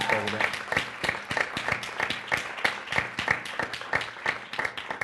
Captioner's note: applause